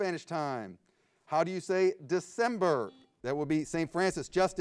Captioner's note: buzzer beeps